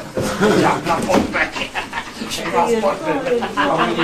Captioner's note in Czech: zlověstný smích